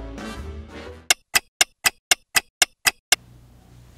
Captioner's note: clock ticking